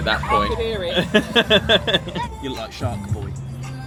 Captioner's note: laughs